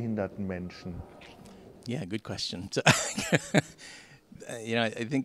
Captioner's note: laughing